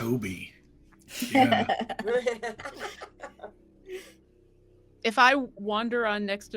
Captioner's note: laughing